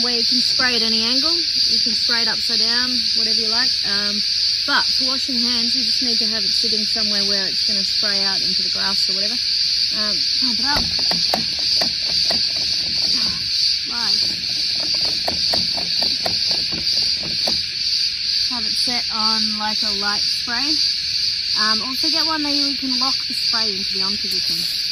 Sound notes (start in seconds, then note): 10.4 clanking of heavy pumping